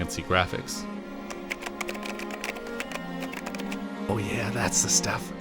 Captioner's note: typing